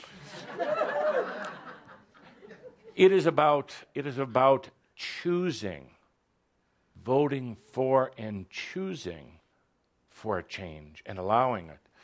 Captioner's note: laughter